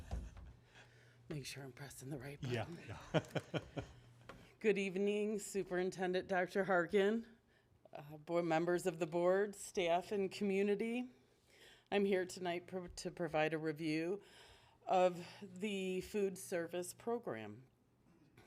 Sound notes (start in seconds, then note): 4.4 laughs